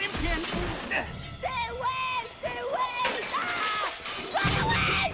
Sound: screaming

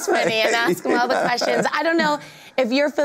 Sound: laughs

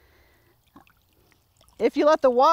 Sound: water trickling

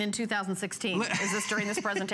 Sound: laughter

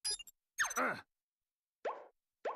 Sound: grunting

